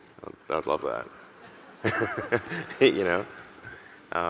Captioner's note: audience laughing; laughs